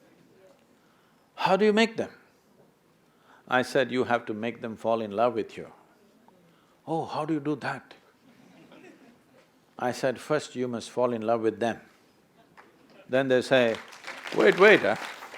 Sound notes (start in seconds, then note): 13.4 applause